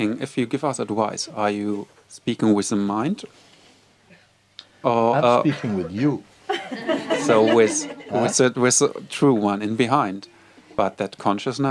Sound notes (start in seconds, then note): 6.4 laughter